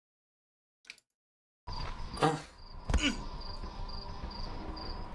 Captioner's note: grunting